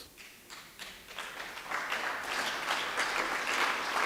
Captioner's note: audience Claps